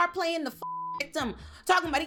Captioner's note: beep